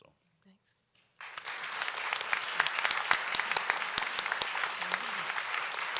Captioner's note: audience applauds